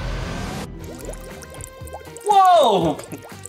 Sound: bubbles bubbling

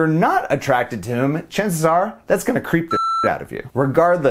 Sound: beep

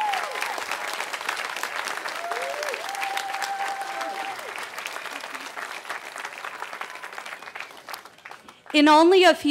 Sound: cheering

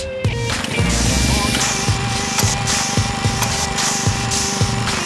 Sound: paint sprayer spraying

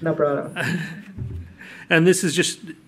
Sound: laughs

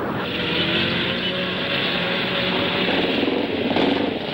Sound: engines humming

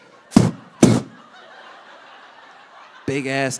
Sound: audience laughing

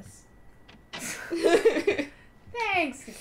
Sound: laughter

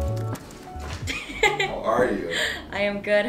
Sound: laughing

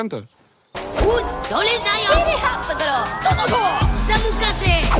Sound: speaking in japanese

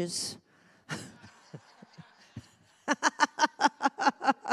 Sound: congregation laughs; laughs

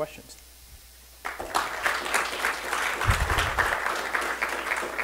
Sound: audience clapping

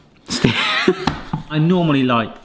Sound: both laugh

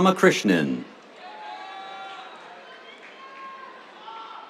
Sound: cheers

